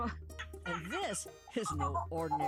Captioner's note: doll wickedly laughs